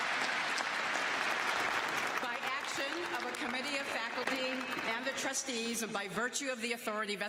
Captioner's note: applause